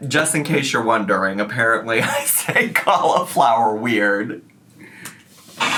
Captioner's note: laughing